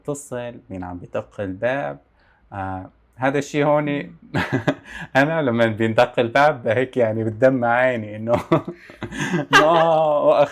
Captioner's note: laughs